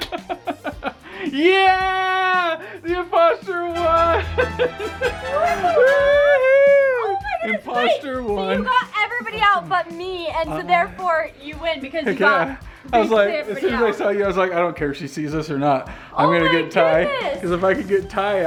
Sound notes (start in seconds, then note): 0.0 laughing; 6.5 cheering